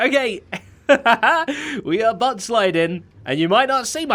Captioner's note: laughs